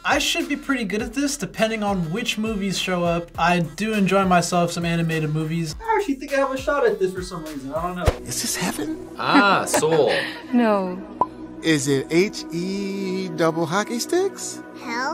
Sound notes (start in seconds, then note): 9.2 laughs